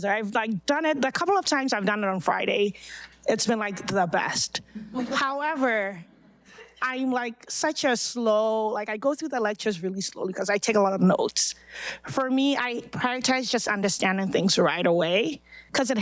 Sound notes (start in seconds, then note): 4.8 audience laughing